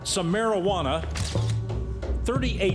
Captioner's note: camera flashes